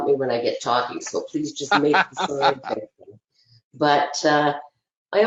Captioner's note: laughing